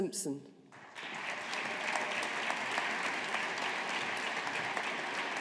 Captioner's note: audience applauding